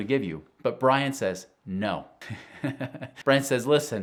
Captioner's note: laughing